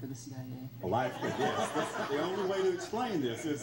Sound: laughs

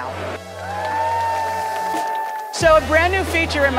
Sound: crowd cheering

